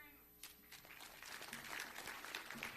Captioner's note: audience applause